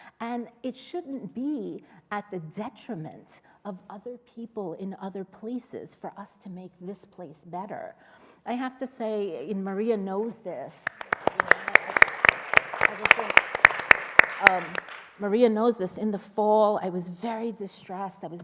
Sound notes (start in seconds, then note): 10.8 applause